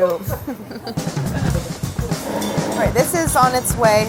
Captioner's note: laughing